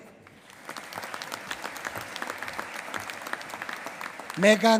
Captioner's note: applause